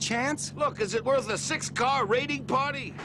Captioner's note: none